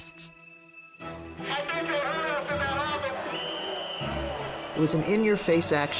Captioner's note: protester calls out on megaphone